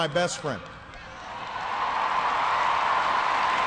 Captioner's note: cheering